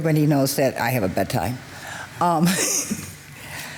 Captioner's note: laughs